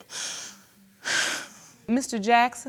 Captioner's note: sighs